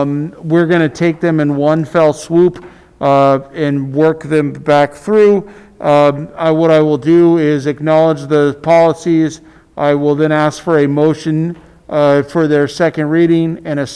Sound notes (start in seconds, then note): none